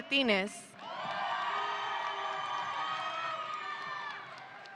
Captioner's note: audience cheering